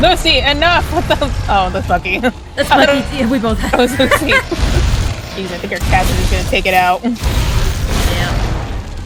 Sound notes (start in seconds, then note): 2.5 laughs